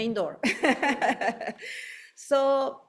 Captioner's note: laughing; audience chuckling